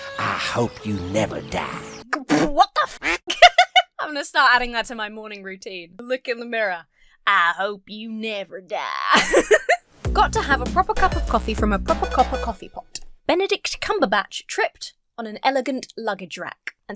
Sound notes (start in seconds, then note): 2.1 splutters; 3.0 duck quacks; 3.1 laughs; 9.1 laughs